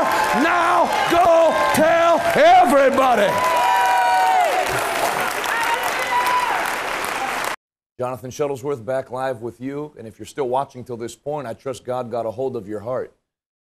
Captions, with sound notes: Now go tell everybody! (Cheering and applauding). Jonathan Shuttlesworth back live with you. And if you are still watching till this point I trust God got a hold of your heart.